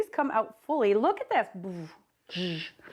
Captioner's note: vocalizing sound effects